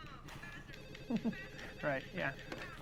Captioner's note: llamando el teléfono; risas